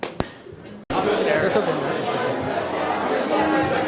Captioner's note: chatting